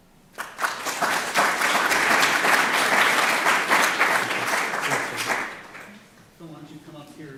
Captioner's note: applause